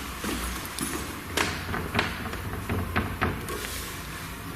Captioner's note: door rattling